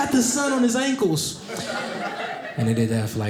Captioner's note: audience laughing